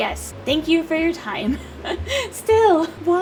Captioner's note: laughs